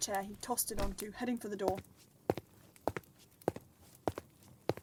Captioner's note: footsteps, door creaks